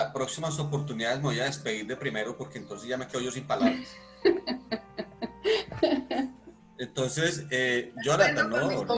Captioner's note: laughs